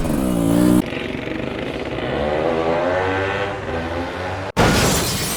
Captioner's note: 2-Stroke sounds